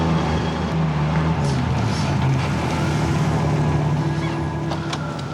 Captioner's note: engine rumbles